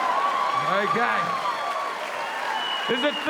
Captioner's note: audience cheering